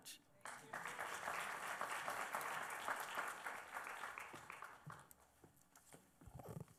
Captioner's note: applause